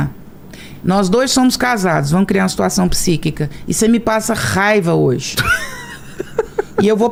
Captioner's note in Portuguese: risadas